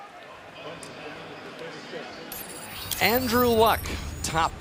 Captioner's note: pa announcement